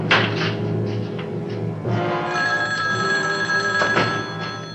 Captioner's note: telephone Rings